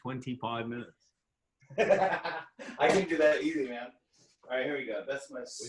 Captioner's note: laughing